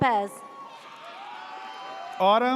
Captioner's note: audience cheers